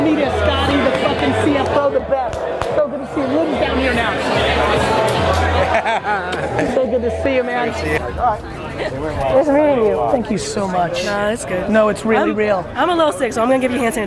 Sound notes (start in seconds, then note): 5.3 laughs